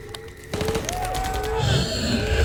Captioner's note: gunfire pops; distant yelling; vampires growling